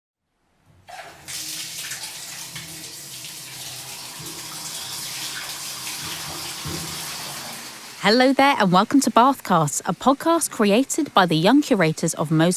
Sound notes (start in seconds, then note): 0.8 sound of water running out of taps